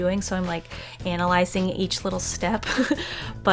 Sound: laughs

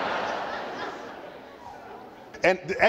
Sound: laughter

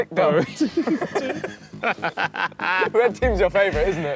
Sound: laughing

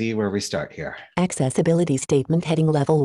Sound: automated Voice

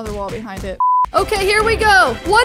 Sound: beep

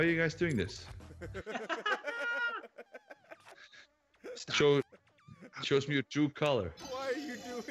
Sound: laugh

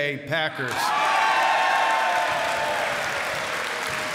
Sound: cheers and applause

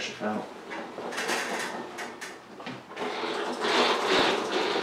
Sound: mower whines

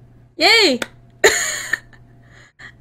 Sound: laughs

